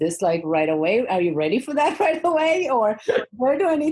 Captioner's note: laughs